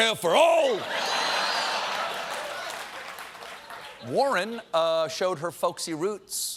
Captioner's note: applause